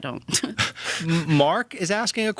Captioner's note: laughter